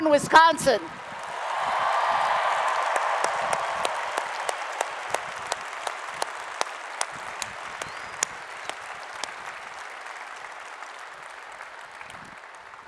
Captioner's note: applause and Cheering